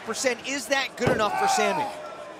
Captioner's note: crowd cheering